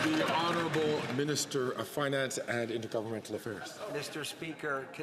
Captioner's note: some Applause